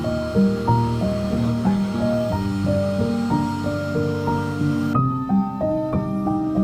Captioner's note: gentle piano music; power tools in background